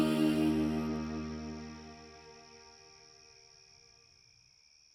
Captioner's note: crickets chirping